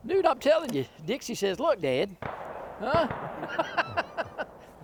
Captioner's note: laughs